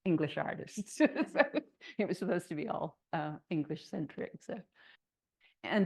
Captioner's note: laughs